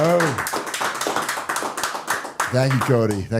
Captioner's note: audience cheering